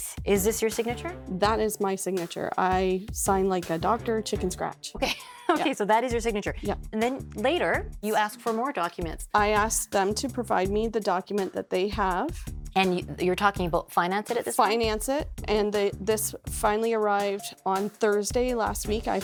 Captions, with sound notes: -Is this your signature? -That is my signature. I signed like a doctor, chicken scratch. [laughs] Okay, so that is your signature. And then later, you asked for more documents. I asked them to provide me the document that they have. And you're talking about Financeit at this point? Financeit, and this finally arrived on Thursday last week.